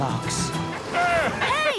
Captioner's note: laughing